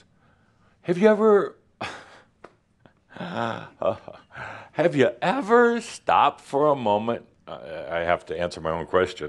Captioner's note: chuckles slightly